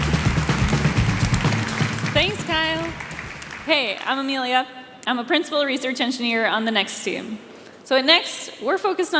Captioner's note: applause